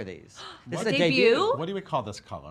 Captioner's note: gasps